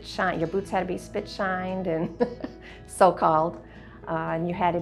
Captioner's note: laughs